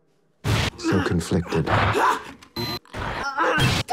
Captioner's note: groaning